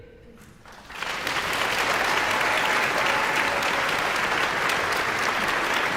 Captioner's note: audience applauding and cheering